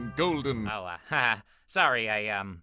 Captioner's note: nervous laughter